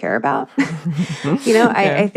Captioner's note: laughs